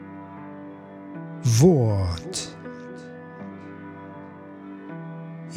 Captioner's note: german